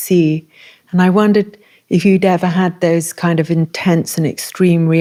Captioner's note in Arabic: none